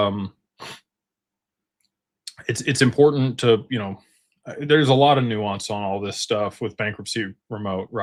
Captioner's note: snorts